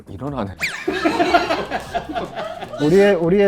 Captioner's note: laughter